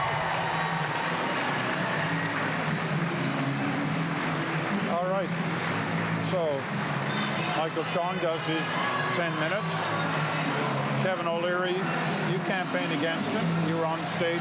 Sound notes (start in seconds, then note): 5.9 applause